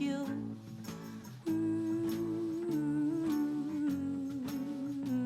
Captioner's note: humming